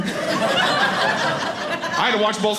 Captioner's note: audience laughing